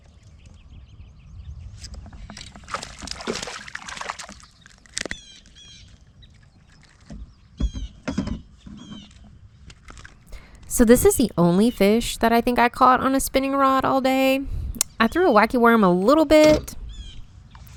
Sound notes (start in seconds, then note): 5.0 birds chirping